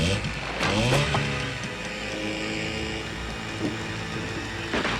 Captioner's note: motor whirring; arrow thudding